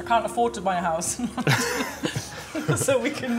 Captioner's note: both laughing